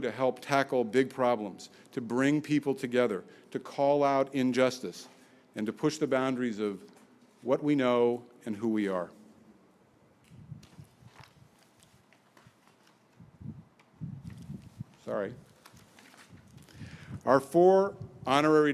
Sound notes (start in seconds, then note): none